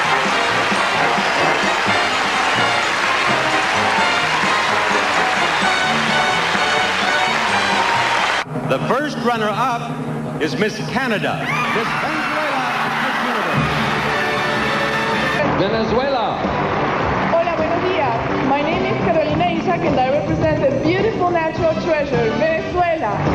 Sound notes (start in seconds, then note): 0.0 crowd cheering and applauding; 11.6 crowd applauding and cheering; 17.8 in Spanish